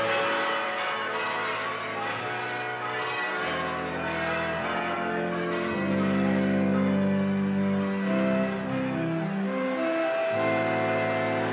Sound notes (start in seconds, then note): 0.9 church bells pealing